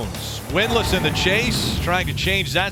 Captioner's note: engine revving loudly